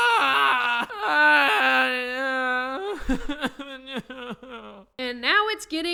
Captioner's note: aang is still crying; aang cries like a dying brontosaurus/giraffe